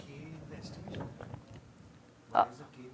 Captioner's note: indistinct conversation